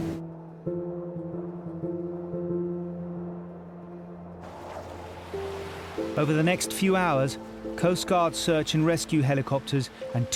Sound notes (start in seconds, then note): 0.2 soft music continues; 3.4 wind moans